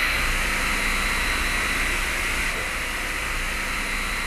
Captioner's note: machine hovering